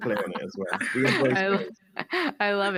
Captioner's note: laughter